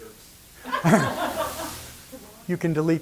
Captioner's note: laughter